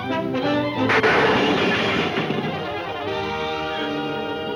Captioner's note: debris clattering